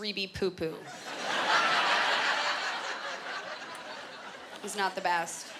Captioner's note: laughter